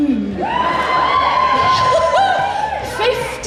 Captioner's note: audience Cheers